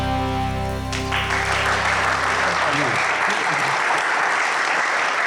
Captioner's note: audience applauds